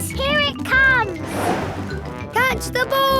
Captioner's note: whoosh